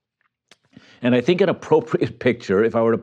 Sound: chuckles

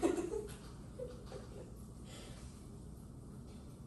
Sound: laughing

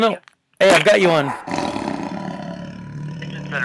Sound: lion Roar

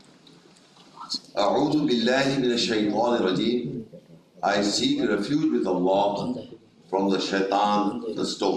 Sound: reading in Arabic

